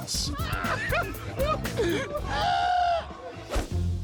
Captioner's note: friends laughing; dot whooshing; gentle music